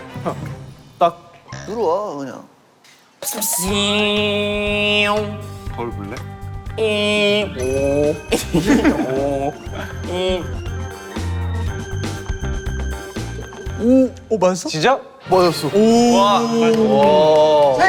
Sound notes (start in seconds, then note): 3.2 self-made sound effects meant to create fear